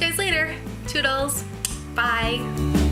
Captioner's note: kiss